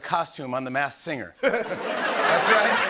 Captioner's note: laughter